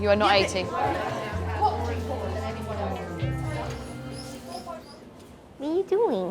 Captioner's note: people chattering